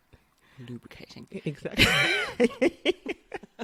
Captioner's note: laughs